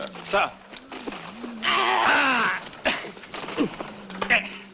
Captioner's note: grunting